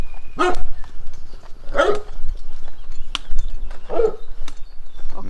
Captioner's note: dogs barking